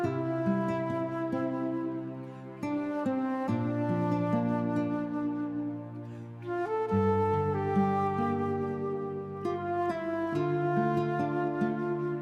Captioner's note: blows